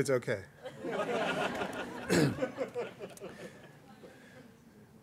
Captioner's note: laughter